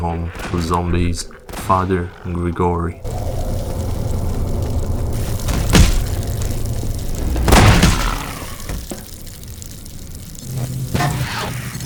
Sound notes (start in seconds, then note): 7.4 gunshots